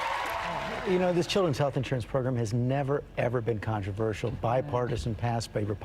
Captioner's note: cheers and applause